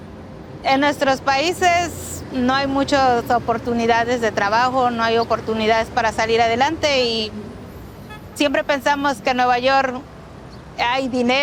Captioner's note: speaking in foreign language